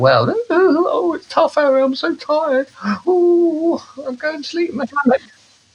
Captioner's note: mocking himself